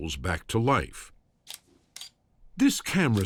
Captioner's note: camera shutter clicking